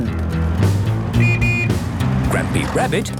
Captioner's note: honking